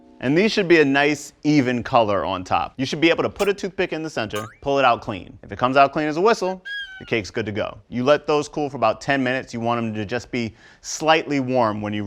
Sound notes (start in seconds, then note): 6.7 whistle